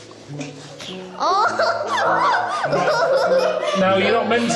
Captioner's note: giggling from inside